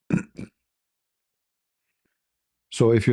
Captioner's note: berdehem